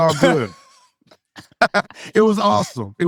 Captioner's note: laughs